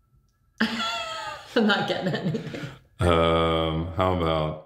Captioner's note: laughing